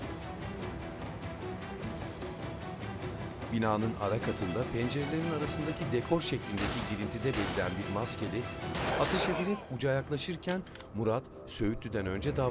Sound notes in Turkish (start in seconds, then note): 0.0 Müzik - Gerilim; 6.0 Silah sesleri